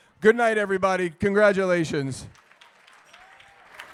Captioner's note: applause